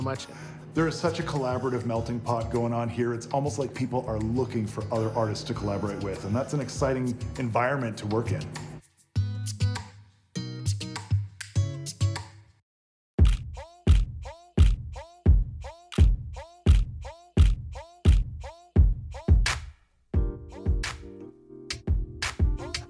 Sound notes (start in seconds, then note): 13.1 camera clicking; 20.2 light music